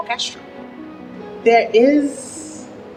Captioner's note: waves crashing